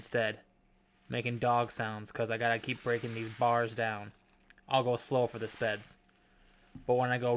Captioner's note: gentle wave sounds cont